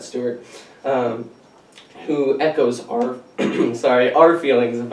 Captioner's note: clears throat